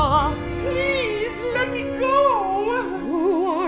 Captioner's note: client in falsetto